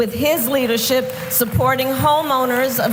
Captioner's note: applause